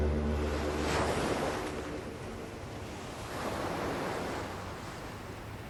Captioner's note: waves crashing